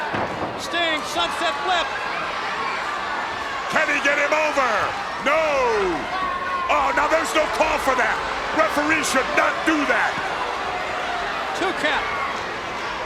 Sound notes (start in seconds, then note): 0.0 Ric exclaiming; 2.2 crowd cheering; 3.7 Ric exclaiming